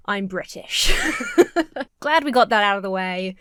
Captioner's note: Emma laughs